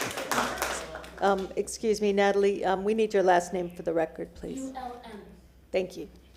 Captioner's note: applause